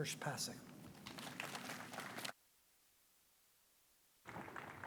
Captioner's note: audience applauds